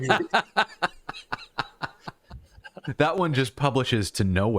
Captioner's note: laughter